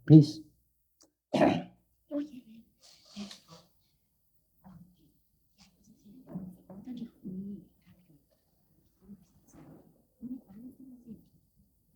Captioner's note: questioner whispers to interpreter